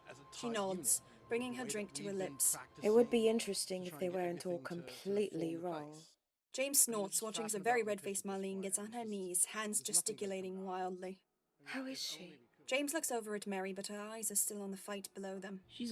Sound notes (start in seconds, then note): none